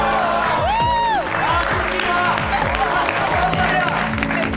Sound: applauding; cheering

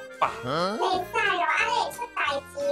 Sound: Taiwanese

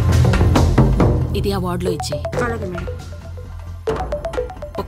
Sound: phone rings

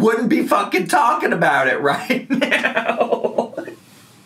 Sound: laughing

